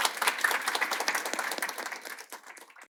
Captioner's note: audience applauding